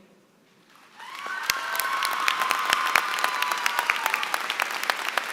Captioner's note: applause